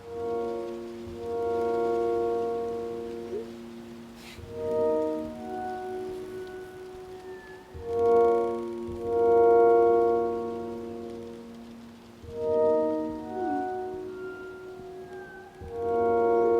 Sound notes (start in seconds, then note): 0.1 bleak electronic music; 3.3 Chris sighs; 3.3 phone chimes; 13.2 phone chimes